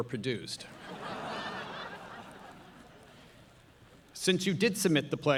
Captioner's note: audience laughing